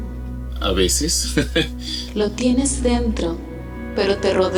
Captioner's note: chuckles nervously